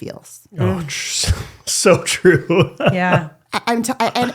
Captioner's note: laughs